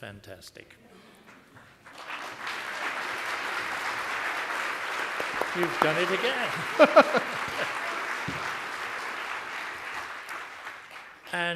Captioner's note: applause